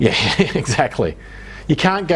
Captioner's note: laughs